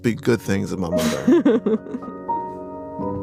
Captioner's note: laughs